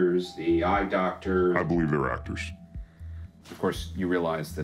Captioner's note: distorted voice